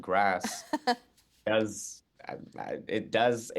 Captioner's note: chuckling